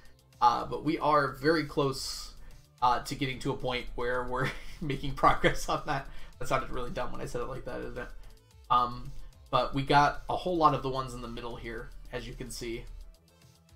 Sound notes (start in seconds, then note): 5.8 laughs